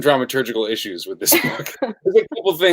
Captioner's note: laughing